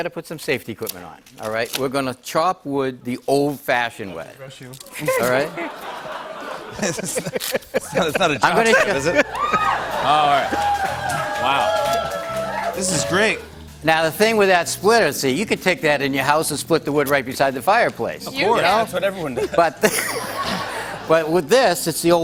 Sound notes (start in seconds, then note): 5.0 laughter; 8.4 cheers; 19.2 laughter